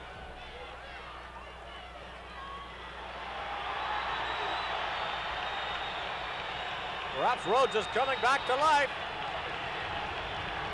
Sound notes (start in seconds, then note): 3.0 audience cheering